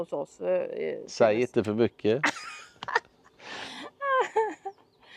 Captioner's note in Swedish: skratt